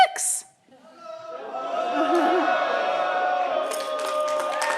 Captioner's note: audience cheering